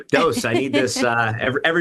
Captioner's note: host laughs